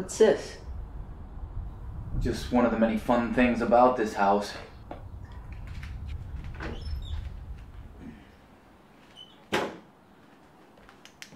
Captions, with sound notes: What’s this? - Just one of the many fun things about this house. (creaking)